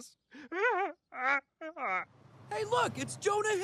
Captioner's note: Cleveland sobbing